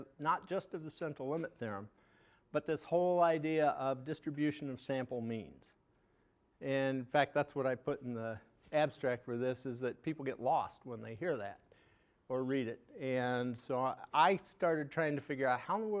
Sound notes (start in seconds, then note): none